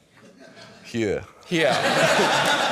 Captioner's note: strong welsh accent